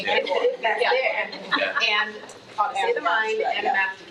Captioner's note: attendees chattering